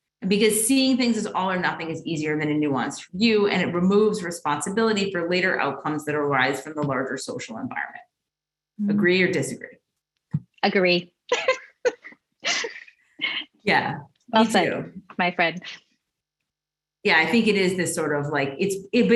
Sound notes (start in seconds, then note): 12.4 laughs